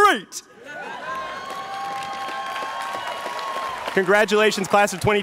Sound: students cheering

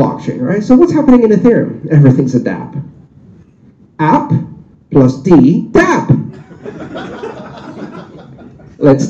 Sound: laughter

